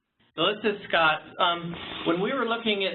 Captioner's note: voiceover